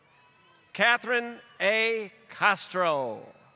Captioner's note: applause